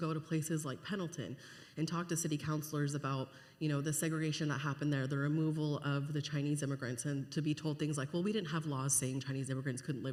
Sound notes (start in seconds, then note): none